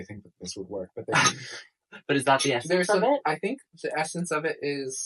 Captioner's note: both laugh